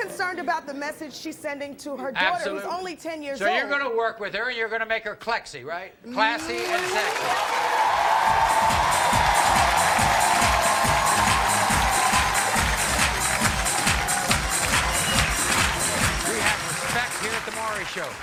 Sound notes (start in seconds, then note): 8.1 audience cheering and applauding; 10.0 bass-heavy music